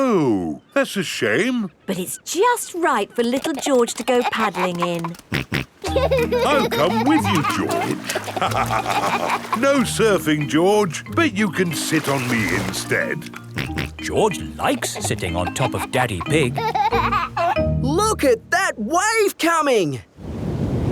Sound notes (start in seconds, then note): 5.7 snorts and laughs; 8.7 both laugh; 13.5 snorts; 17.0 giggling